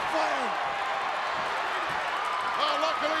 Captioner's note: crowd cheers